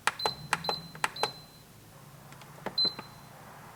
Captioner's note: beeping